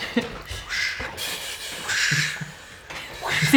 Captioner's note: vocalizing splashes; laughter